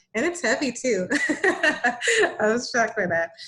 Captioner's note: laughing